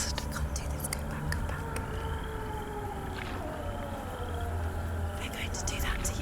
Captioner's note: wolf howls in distance